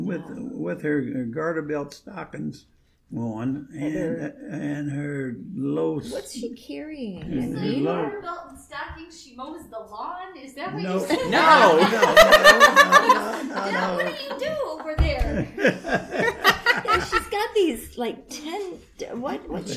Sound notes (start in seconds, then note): 10.9 laughter; 15.3 joins laughter